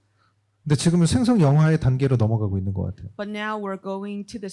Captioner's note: speaking korean